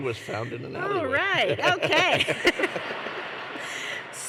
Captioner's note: laughter